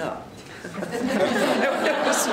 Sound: laughter

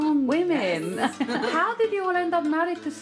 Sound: laughter

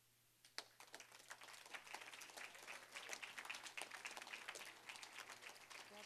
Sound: applause

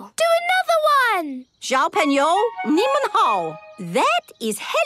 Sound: speaking Chinese

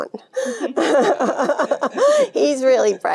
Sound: Jane laughing

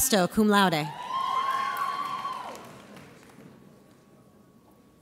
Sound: audience cheers

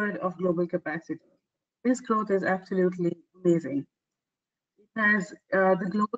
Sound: audio static

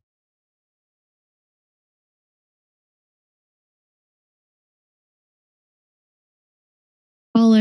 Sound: silence

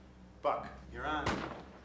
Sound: loud backfire

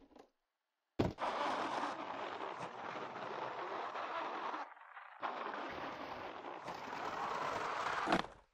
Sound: skrrr

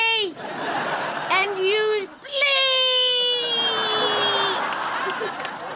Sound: both laugh

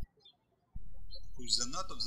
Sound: birds chirping

